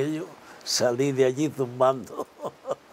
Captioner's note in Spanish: ríe